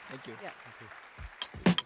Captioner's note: applause